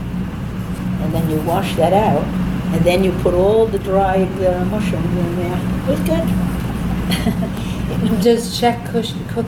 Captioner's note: laughs